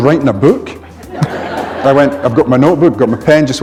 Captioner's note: laughter